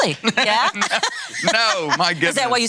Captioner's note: laughing